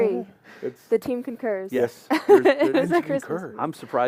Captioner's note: laughter